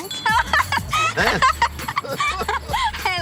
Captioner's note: girl laughs